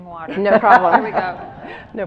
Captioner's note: audience laughs